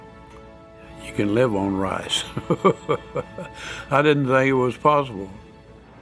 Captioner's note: chuckles